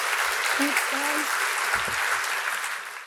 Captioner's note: audience applauds